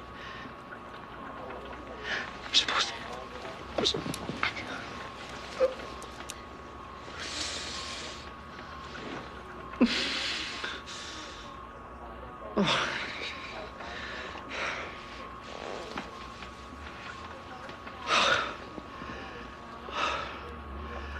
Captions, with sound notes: I'm supposed to be there to keep her safe. I'm supposed to... (John groaning)